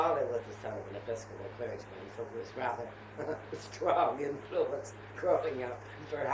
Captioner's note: laughs